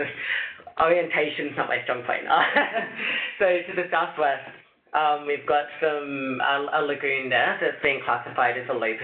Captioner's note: laughs